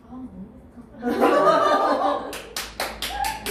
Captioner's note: Laughter